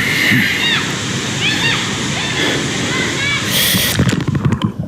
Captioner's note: children chatting; deep muffled voice; water rushing